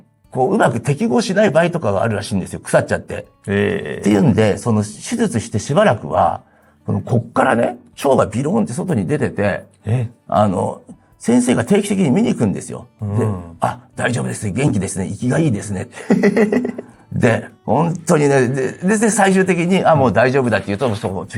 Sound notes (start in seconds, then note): 16.0 laughs